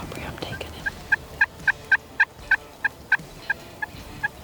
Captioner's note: turkey calling